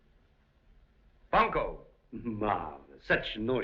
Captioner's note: exuberantly